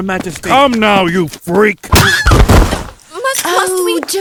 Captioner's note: smack, scream